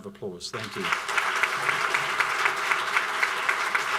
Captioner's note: applauding